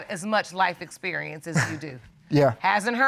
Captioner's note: chuckles